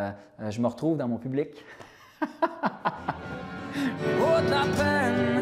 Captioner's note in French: rire